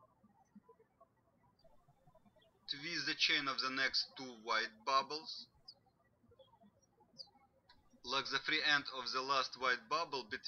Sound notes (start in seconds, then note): 6.0 birds chirping